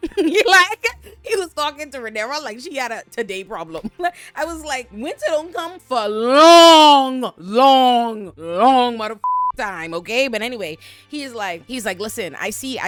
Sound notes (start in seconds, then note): 9.2 beep